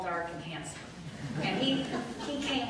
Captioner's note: light laughter